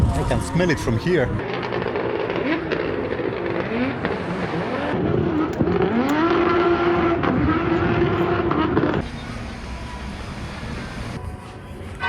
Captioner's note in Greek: Θόρυβοι κινητήρα